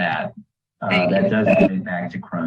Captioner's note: distorted audio